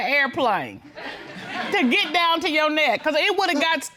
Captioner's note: audience laughing